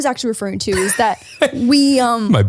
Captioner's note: laughs